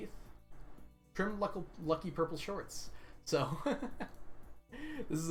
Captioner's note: laughs